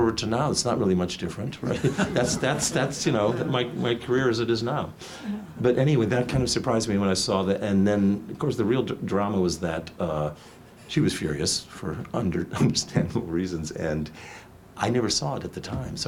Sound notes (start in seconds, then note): 1.6 audience laughs